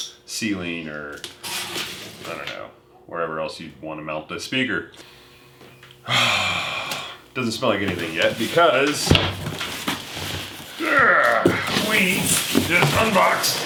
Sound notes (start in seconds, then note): 3.4 sniff